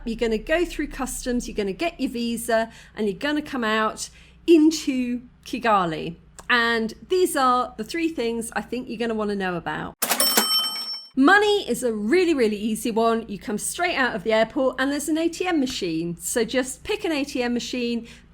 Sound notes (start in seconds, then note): 10.0 cash register ching